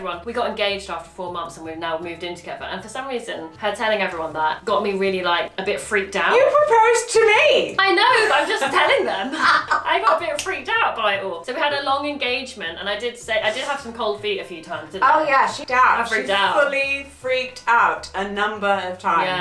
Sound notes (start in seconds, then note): 7.8 laughs